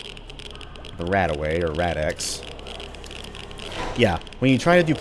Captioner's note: elevator lowers